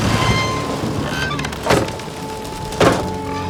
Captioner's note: thunder rumbling; thudding